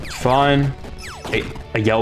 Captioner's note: stutter Moment